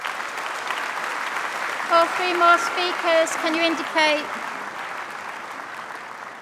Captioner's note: applause